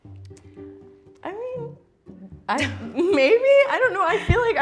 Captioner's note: playful music; laughs